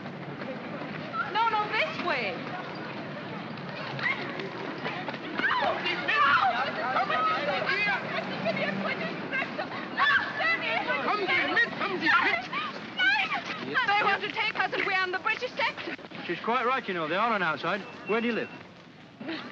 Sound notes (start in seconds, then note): 3.9 commotion; 8.0 Frederica shouts in German